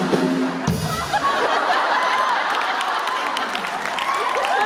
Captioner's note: laughter; applause